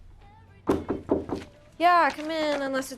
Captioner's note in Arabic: يطرق الباب